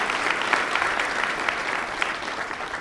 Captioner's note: applause